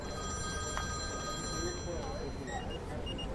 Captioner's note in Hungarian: Telefoncsörgés